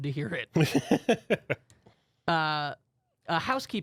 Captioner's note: laughs